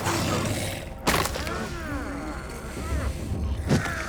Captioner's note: groaning